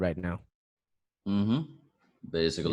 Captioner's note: mindless agreeing noises